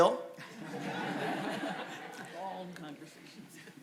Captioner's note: audience laughs